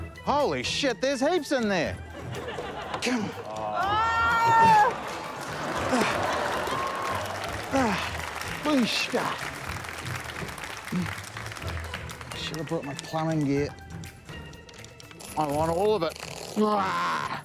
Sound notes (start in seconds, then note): 5.8 groans; 5.9 applause; 7.5 grunts